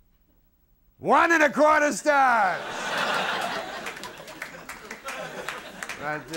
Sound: audience laughing

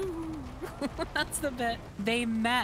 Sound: laugh

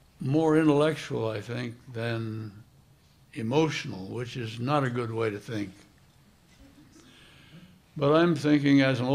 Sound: soft laughter

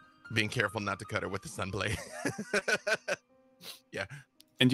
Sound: laughs

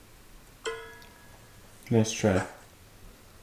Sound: tablet dinging

